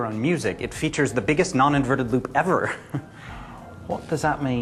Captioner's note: chuckles